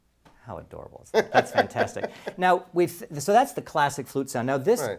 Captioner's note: laugh